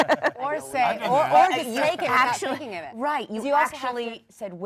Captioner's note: panel laughs